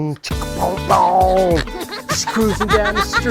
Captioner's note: girl laughing